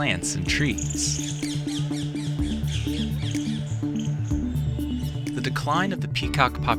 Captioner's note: birds chirping